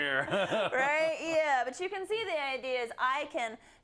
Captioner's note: laugh